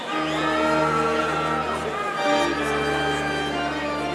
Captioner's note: audience cheering